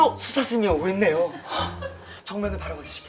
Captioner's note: gasp